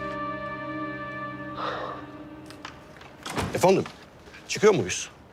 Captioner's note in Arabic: يتنفس